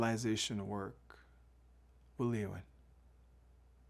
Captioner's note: speaking in Wolastoqey